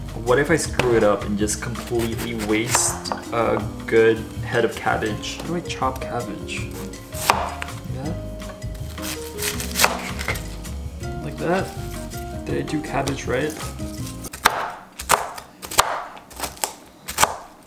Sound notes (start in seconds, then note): 8.8 knife slashing; 13.5 knife slashing